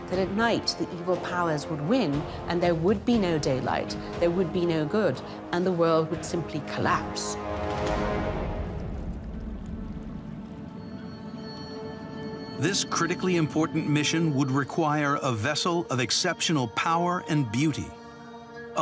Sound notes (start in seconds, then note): 7.4 gentle frantic music; 7.4 water babbles